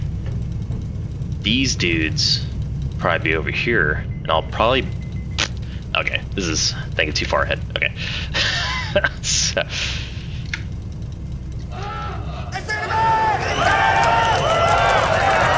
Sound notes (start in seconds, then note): 8.5 laughs; 13.6 applause